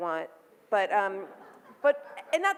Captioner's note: audience laughs